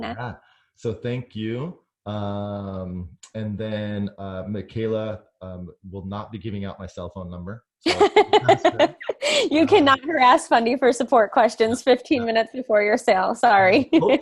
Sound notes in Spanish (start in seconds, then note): 7.9 laughs